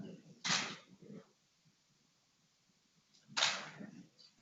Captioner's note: camera clicking